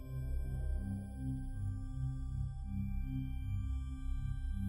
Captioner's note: none